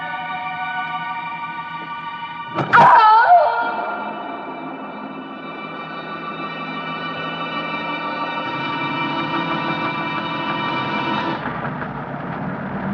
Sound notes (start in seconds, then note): 2.6 screaming